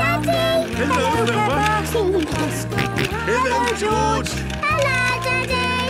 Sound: George giggling and snorting

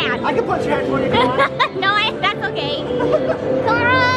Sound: laughs

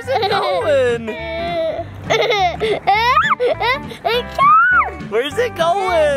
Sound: giggles and screams

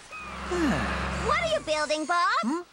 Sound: humming; sighs

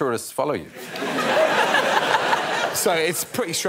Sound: audience laughing

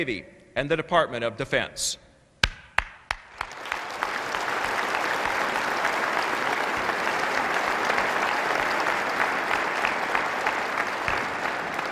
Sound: applause

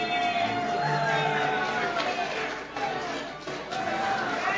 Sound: audience cheers

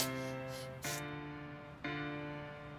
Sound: sobbing

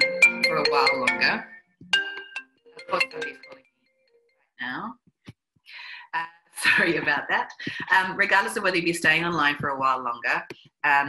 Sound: phone rings

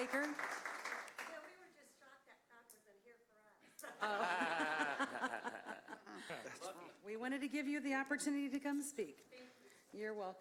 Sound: applause

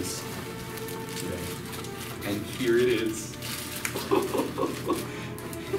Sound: adorable laughter of excitement

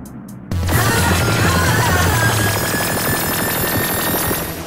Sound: laser zapping; Mytra yelling

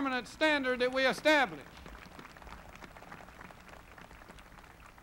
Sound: crowd applauding

